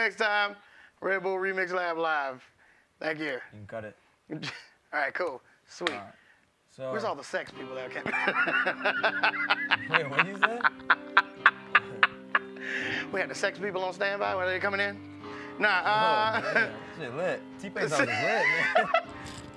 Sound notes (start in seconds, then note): 8.0 laughs